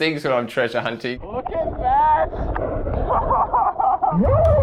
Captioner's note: laughs; underwater cheer